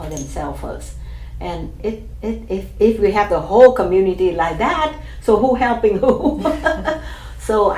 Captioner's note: laughs